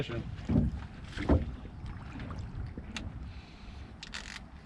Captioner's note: reel cranking; fish splashing